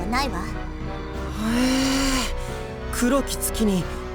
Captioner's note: impressed hum